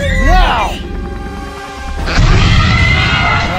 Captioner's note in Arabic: أصوات فيلوسيرابتور